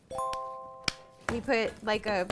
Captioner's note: ding